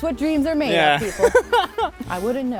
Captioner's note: laughing